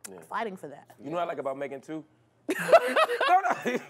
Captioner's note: laughter